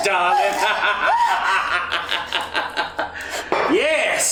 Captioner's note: evil cackle from Otis